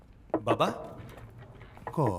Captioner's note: Door knock